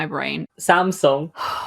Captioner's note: exhales